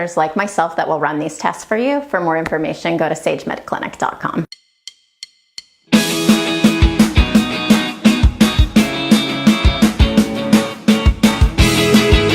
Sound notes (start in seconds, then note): 4.5 clock ticks; 5.6 upbeat music